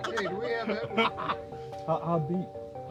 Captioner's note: chuckles